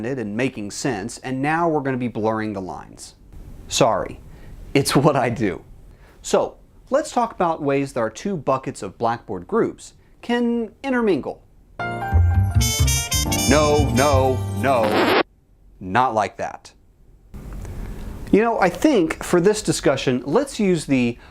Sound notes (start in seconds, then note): 11.8 sultry Jazz music plays; 14.6 record scratch sound, music stops